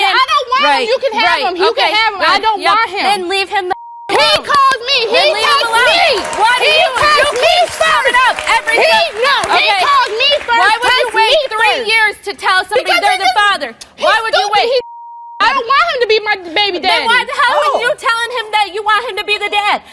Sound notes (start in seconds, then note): 3.7 beeps